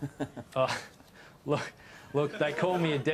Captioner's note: laughs